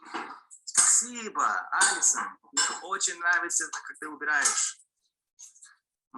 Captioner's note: man speaking in foreign language